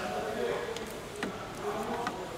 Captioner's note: voices in the background